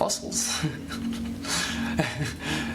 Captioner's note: laughs